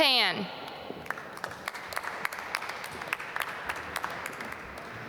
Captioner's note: applause